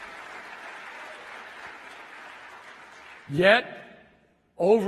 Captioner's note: applause